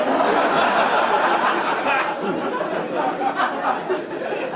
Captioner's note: audience laugh